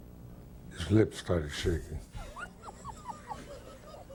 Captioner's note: laughs